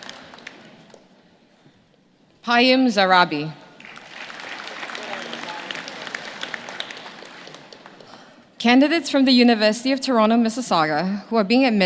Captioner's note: names being called